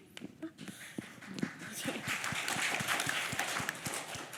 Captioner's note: applause